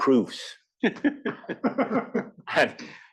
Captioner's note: laugh